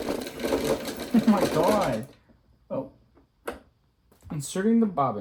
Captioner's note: drill Whirring